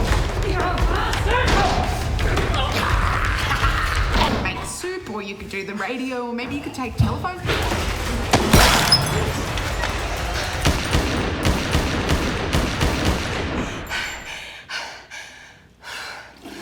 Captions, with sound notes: You bastard! (evil laughing) Or you could make soup or you could do the radio or maybe you could take telephone calls? (smash) (gun shots) (more gun shots) (even more gun shots) (panting, it was a lot of shooting)